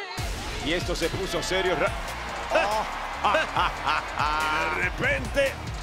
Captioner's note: laugh